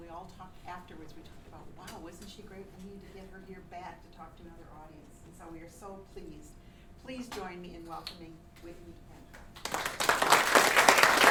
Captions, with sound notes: And we all talked afterward, we talked about "Wow, wasn't she great? We need to get her here, back to talk to our audience And so we are so pleased, please join me in welcoming Whitney Antwine [clapping]